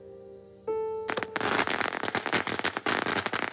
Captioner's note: Firecrackers crackling